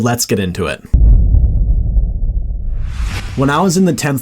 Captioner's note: dramatic rumble